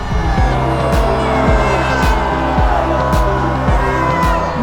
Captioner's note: crowd booing